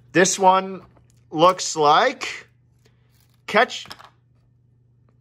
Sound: none

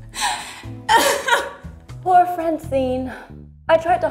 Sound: sobs

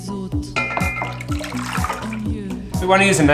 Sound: mixture splashes

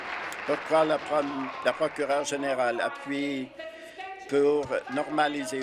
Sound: applause

